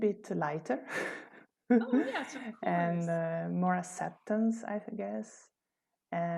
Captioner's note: laughter